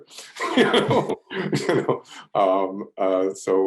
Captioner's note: laughs